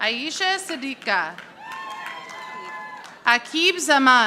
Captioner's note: audience applauding